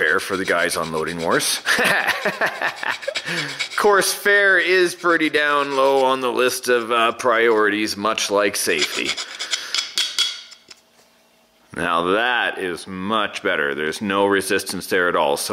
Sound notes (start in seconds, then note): 1.3 laughs; 9.4 metallic clanging